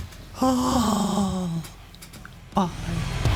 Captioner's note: Sighs like Winnie The Pooh